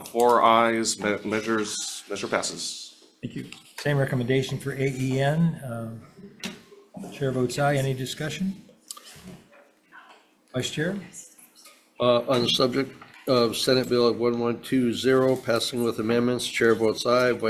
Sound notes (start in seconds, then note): none